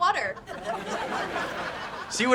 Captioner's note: laughs